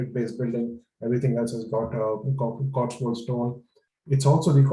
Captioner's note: murmurs